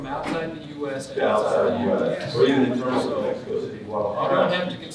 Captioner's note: audience chattering